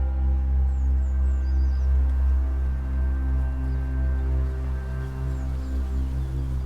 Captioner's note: dark music continues; birds chirp